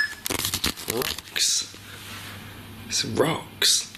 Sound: beeping

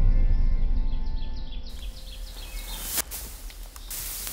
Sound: birds chirping

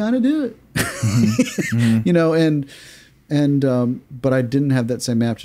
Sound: laughs

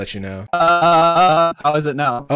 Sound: choppy speech

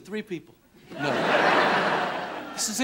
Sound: laughter

